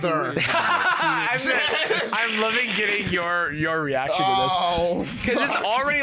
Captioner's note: laughs